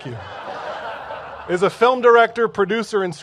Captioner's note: laughter